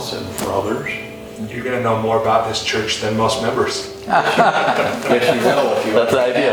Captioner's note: Sadhguru laughs